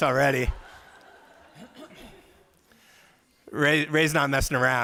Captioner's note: laughter